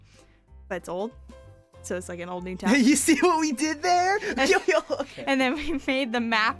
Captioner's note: weird laughing